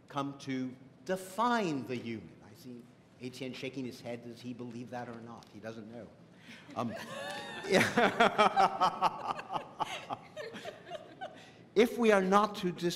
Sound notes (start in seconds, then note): 6.7 laughter